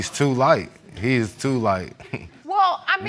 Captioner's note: chuckles